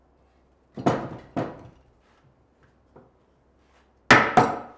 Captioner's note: wood clattering; hammer banging